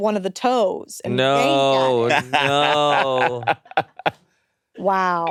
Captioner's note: laughs